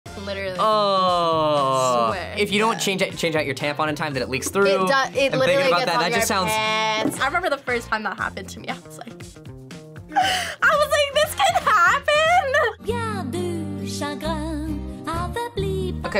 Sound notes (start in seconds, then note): 11.4 laughs; 12.8 gentle music